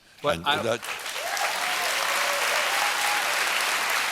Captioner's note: applause